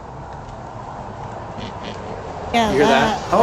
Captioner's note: possible pig noises